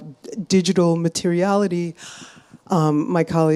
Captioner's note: none